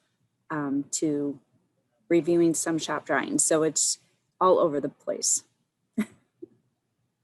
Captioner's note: chuckles